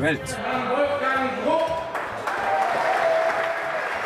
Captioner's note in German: Mann durch Mikrofon; Jubel, Applaus